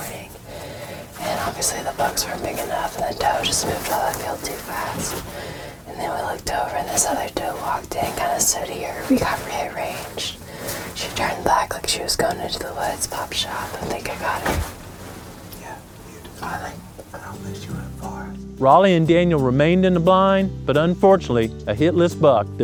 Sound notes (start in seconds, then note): 16.2 whispering